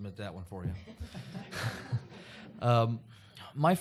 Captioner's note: laughter